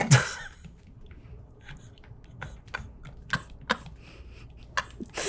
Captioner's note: laughing